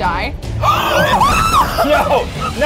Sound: screams

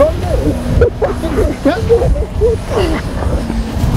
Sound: struggling

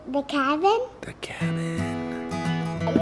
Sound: lighthearted guitar music; whispers

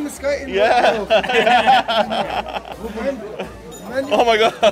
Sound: they laugh

